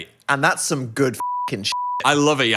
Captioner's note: beep